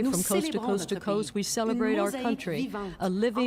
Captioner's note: speaking French